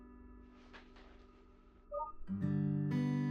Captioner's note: beep